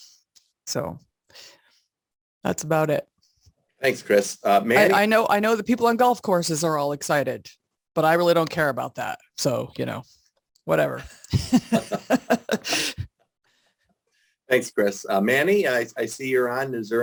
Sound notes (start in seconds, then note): 11.0 laugh